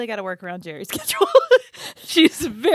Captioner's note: both laughing